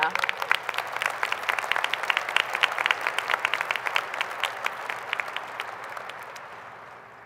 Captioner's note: applause